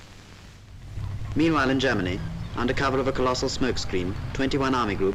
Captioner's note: voiceover